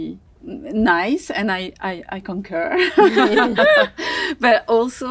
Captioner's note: all chuckle